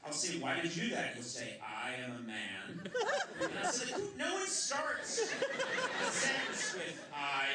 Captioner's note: laughter